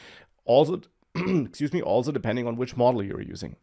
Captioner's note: clears throat